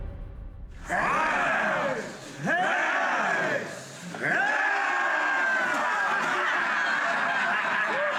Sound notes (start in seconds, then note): 0.8 men chanting; 6.0 laughter